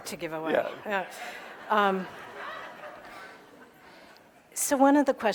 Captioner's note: audience laughing